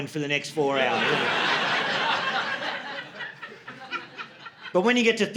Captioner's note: audience laughing